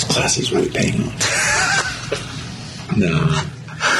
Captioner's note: laughs